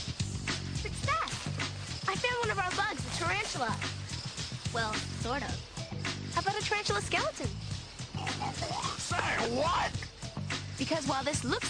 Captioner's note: snorts